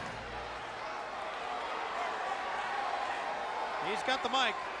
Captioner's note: crowd chatter